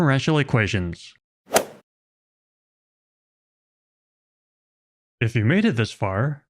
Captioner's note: golf ball hit sound effect